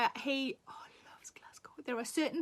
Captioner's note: Sarah whispers